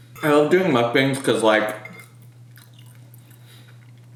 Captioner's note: chews